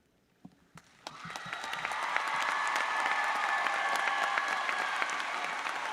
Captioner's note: audience applauds